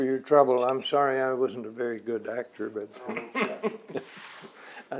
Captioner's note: laughs